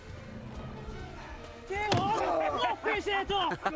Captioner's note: men yell; Eric laughs